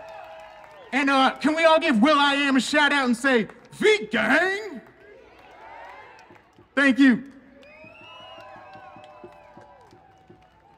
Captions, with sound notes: And can we all give Will.i.am a shout out and say V Gang! Thank you! (audience cheering)